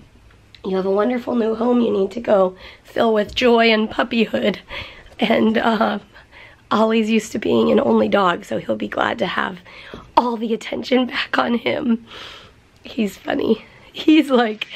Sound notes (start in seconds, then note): none